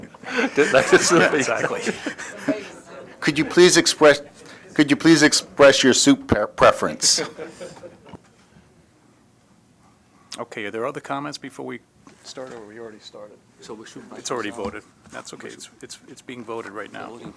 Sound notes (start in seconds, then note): 0.0 laughter